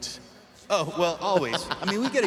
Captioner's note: laughing